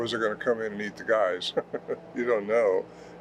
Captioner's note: chuckles